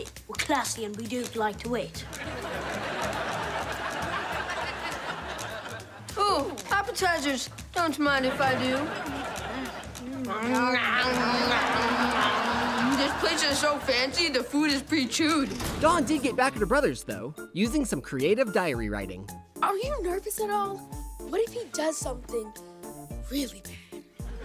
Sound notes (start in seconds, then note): 9.4 chewing loudly